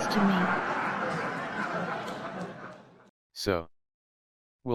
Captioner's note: audience laughing